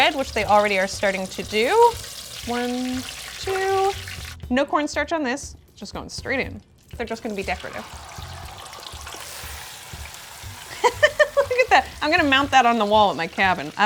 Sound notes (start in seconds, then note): 0.0 oil sizzling; 8.3 oil sizzles; 10.7 laughs